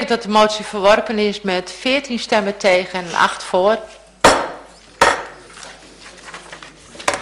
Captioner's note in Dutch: voorzitter klopt met hamer